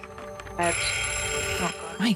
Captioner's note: bell rings